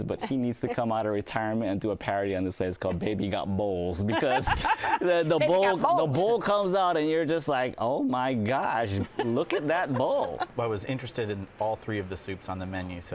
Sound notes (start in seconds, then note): 4.0 laughs